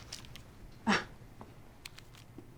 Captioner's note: scoffs